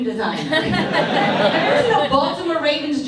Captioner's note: audience laughs